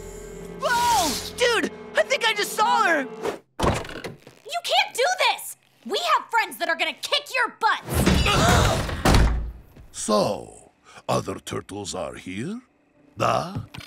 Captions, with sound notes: Whoa, dude, I think I just saw her! You can't do this! We have friends that are gonna kick your butts! [thudding, gasping] So, other turtles are here? Da?